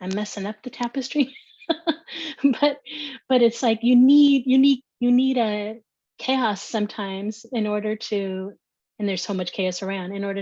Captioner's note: laughter